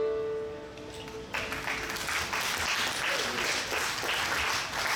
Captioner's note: audience clapping